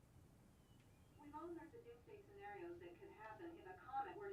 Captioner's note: female voice